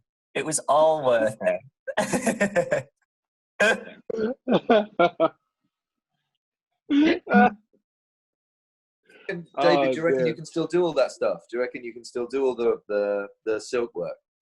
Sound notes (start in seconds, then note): 1.9 laughs